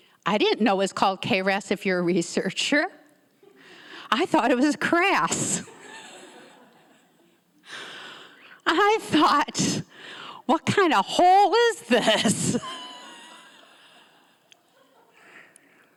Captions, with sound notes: I didn't know it was called KRAS if you're a researcher. I thought it was KRAS. (laughs) (audience members laughing) I thought, "What kind of hole is this?" (laughs)